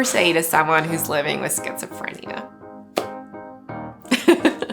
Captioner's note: laughs